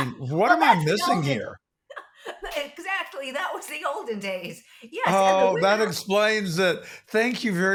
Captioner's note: laughing